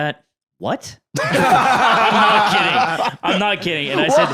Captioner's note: others laughing